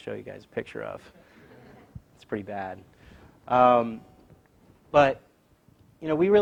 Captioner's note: laugh